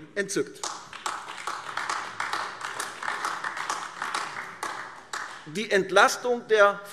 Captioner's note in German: Beifall AfD